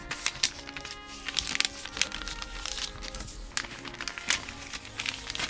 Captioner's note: paper rustling